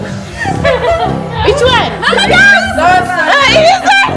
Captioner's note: laugh; speaking German